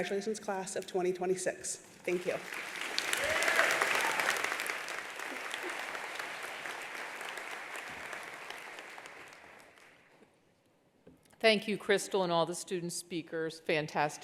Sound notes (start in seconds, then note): 2.7 attendees applauding; 3.1 attendee cheering